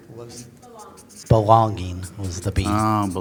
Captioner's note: pat